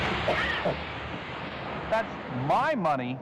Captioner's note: motorman coughs